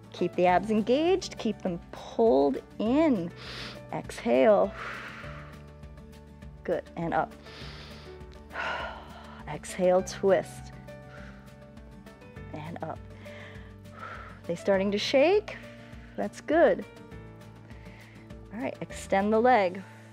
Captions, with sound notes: Keep the abs engaged, keep them pulled in. Exhale. [exhales] Good, and up. [inhales and exhales] Exhale, twist. [exhales] And up. [inhales and exhales] They starting to shake, that's good. All right, extend the leg.